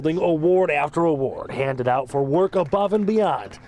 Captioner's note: applause